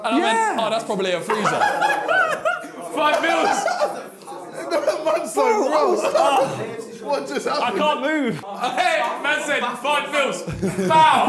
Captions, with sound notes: yeah that's probably a freezer. (laughs) - Five bills. - I can't move. - My five bills. Five!